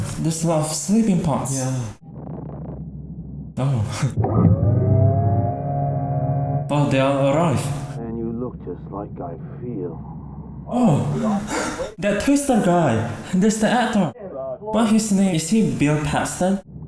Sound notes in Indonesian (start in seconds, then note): 9.6 Mendengus